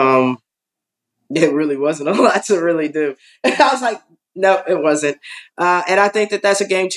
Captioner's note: laugh; laugh